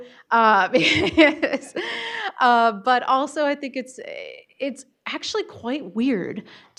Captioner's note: laughter